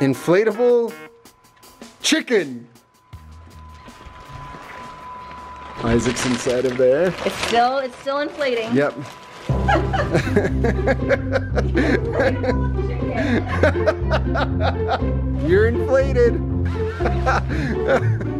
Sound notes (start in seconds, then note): 9.6 laughing